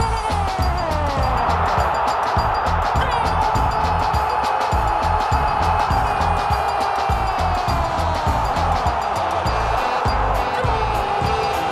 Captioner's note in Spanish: sonido tribunas